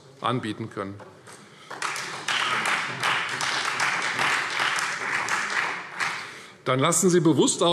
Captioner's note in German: Beifall